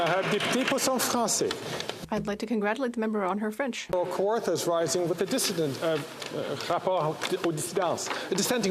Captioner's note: some Applause